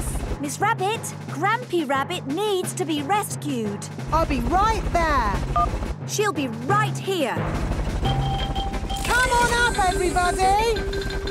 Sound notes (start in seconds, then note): 5.2 phone beeps; 7.4 distant helicopter noise